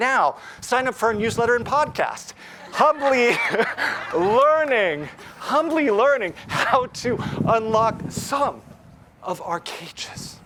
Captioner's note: laugh